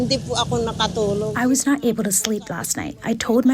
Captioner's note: through translator